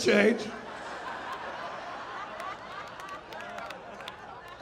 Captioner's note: audience laughing